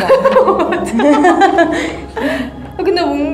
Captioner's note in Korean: 웃음